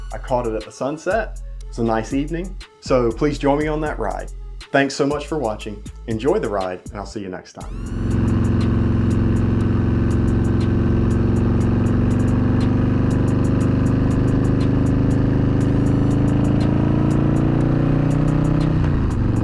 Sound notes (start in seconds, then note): 7.9 motor bike engine roaring